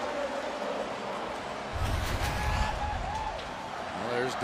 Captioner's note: pa announcement